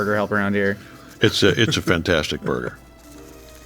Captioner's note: laughing; enchanting music